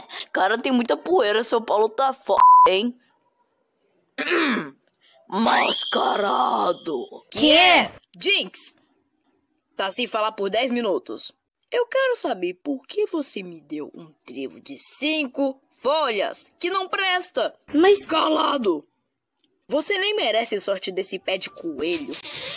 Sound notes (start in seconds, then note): 4.2 cough